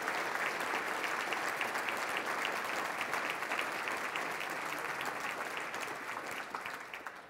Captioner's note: applause